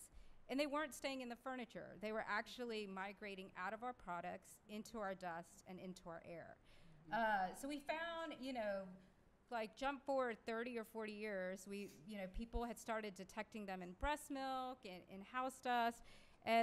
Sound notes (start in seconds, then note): none